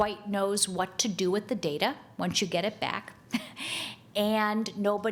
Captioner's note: chuckles